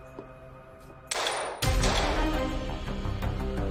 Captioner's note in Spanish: Disparos